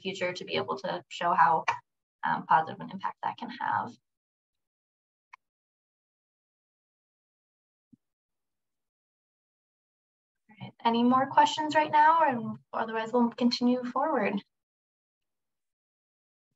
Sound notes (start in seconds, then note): 3.9 silence